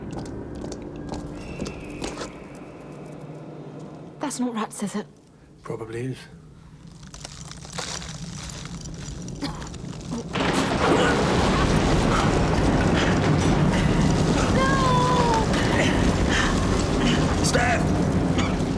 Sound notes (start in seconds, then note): 1.2 squeaking; 6.9 rumbling